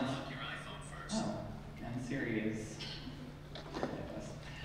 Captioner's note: cell phone noise